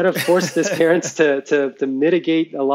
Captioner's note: laughs